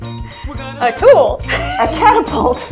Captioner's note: laugh